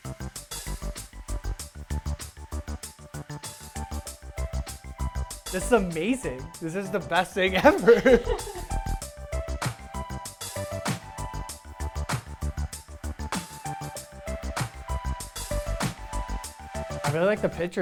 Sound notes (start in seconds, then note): 7.5 laughing; 14.2 upbeat music continues